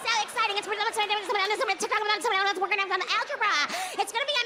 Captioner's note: speaking gibberish